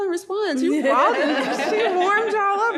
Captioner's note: panelists laughing